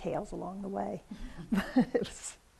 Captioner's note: laughs